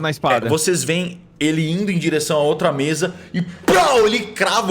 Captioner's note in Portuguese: Pow